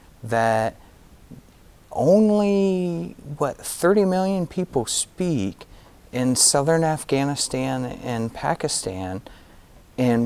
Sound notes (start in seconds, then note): none